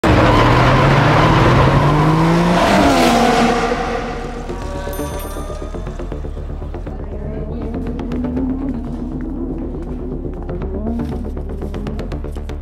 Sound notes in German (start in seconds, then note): 0.6 heulender motor; 4.8 fahrradklingel; 7.1 motorgeräusch